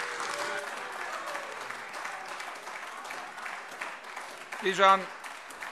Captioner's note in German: Beifall AfD - Zurufe SPD und BÜNDNIS 90/DIE GRÜNEN